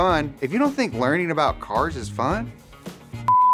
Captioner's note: beep